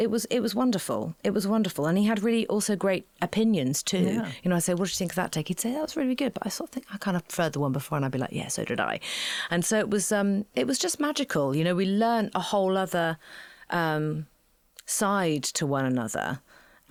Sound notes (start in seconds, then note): none